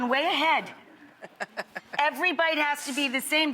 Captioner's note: laughs